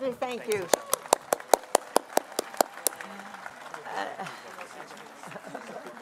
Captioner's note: applause